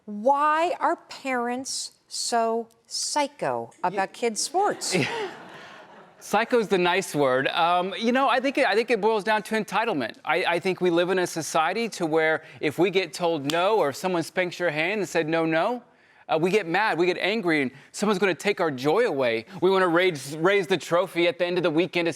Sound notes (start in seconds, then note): 4.6 crowd laughing; 4.9 chuckling